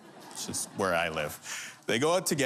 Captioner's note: laughter